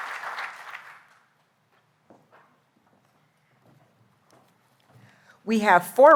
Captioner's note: applause